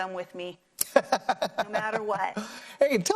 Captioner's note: laugh